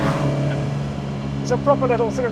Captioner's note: vehicle revs